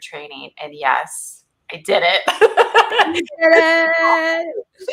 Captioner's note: laughs